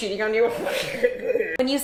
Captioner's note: muffled laughter; nasally voice